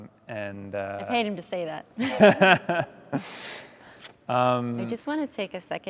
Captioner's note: laughs